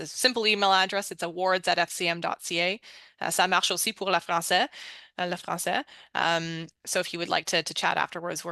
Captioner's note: speaking french